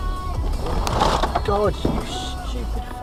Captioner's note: braking hard sound